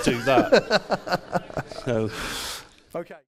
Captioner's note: laughs